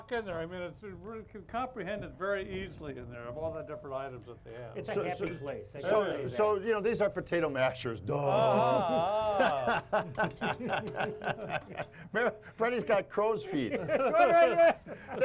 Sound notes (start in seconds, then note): 8.3 all chuckling; 8.4 feigns laugh; 13.5 chuckling